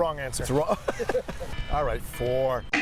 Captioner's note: laughs